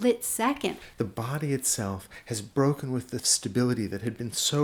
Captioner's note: voiceover